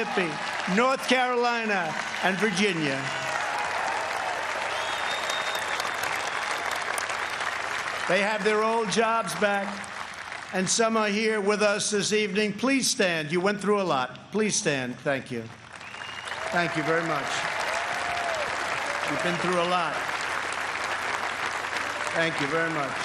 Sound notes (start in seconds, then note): 7.7 applause